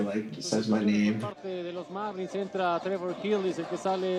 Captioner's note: Spanish